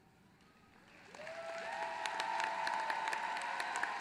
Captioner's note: applause